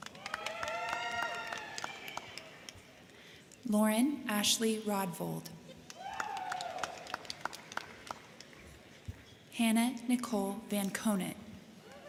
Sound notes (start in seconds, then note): 0.0 crowd cheering; 0.0 crowd clapping; 5.7 crowd clapping; 5.8 crowd cheering